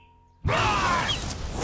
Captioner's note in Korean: 포효하는 소리